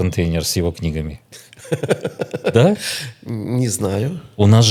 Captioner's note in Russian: смех